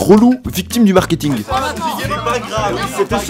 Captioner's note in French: Les gens râlent